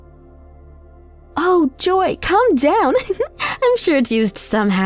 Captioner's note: giggles